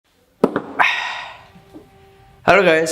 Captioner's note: exhale